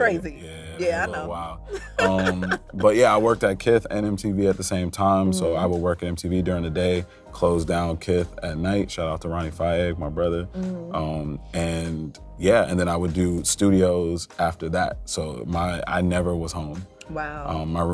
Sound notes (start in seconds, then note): 1.6 laughs